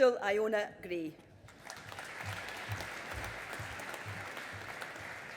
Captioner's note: audience applauding